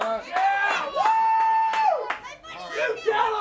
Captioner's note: crowd cheering; crowd chatter